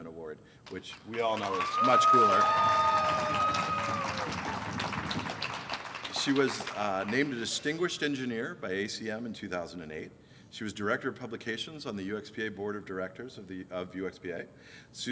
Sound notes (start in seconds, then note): 3.4 applause